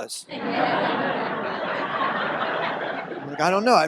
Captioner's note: audience laughs